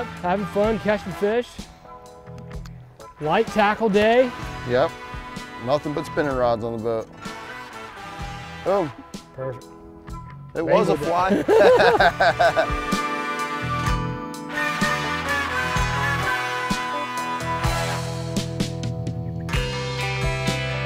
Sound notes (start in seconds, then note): 11.1 both laughing; 13.5 gentle rock music